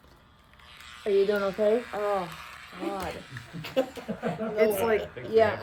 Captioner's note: everyone laughs